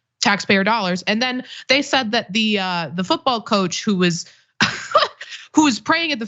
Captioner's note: laugh